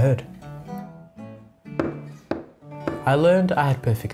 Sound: knocks

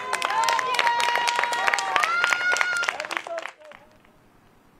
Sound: applause

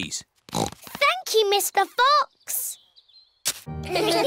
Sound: snorts

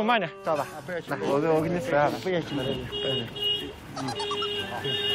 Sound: can’t help but laugh

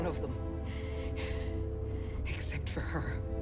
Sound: deep breaths

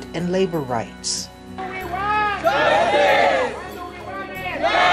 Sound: crowd noise

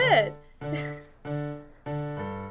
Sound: awkward laugh

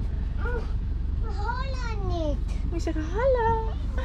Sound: speaks in an indistinct language

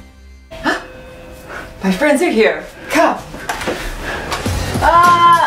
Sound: doorbell ring

